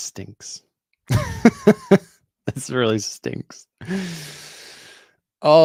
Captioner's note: chuckles